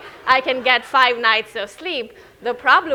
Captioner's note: audience laughing